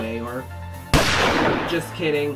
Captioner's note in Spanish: bang